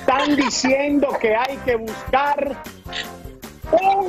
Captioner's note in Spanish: risas